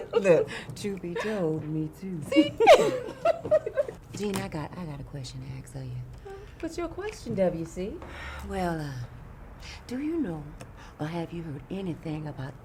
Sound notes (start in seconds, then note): 2.3 laughs